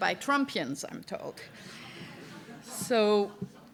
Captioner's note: laughter